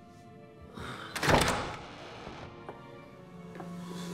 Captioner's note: door opens; groans